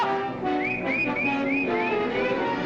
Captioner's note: whistling